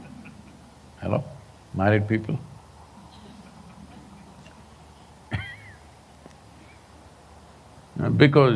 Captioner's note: laughter; laughs